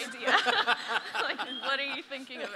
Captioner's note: audience laughs